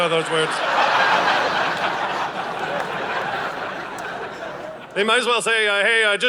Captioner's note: audience laughing